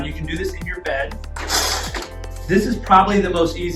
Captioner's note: chair scraping